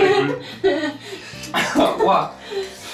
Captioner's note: cough